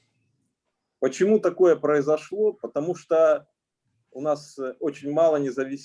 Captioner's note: speaking Russian language